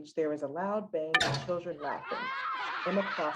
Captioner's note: loud banging; children laughing